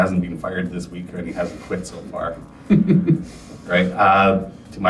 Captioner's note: chuckles